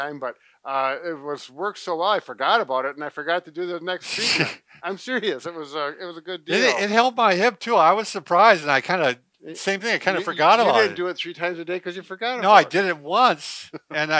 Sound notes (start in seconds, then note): 4.0 laughs